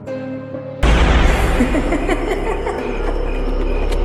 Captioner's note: Tiếng cười hỗn loạn, sợ hãi